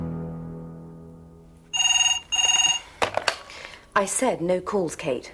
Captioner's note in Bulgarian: Звънене на телефона